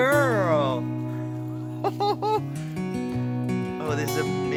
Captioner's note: laughs